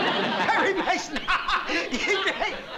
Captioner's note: laughing